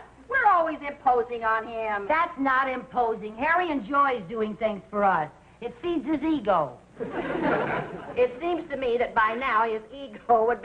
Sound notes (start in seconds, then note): 7.0 audience laughing